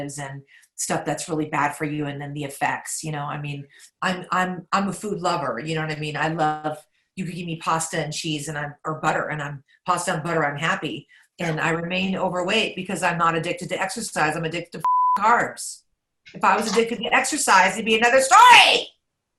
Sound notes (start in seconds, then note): 14.8 beep